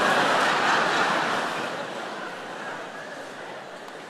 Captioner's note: audience laughing